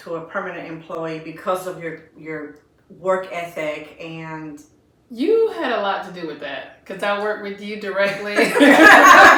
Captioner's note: laughter